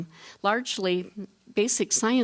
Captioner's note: none